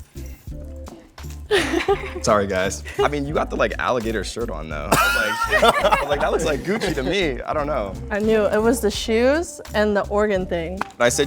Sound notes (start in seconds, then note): 1.5 all giggling; 4.9 all laughing